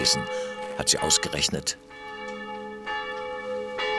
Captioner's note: bell rings